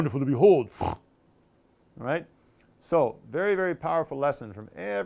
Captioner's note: snorting sound